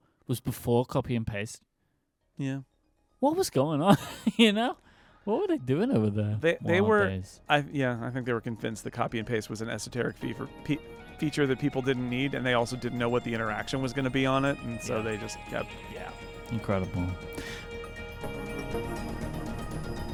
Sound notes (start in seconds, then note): 3.9 laughs; 17.4 upbeat music